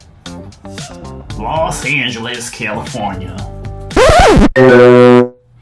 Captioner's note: record scratching; horn blowing